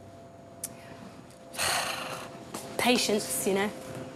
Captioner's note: sighs